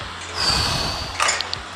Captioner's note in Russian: Выдох